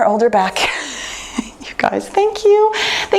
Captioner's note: laughs